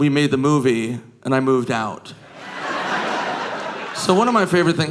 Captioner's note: audience laughing